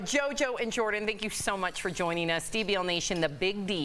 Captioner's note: laughter